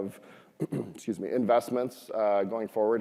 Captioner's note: throat clearing